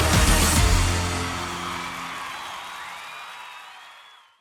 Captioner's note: crowd cheering